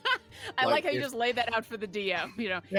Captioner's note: laughs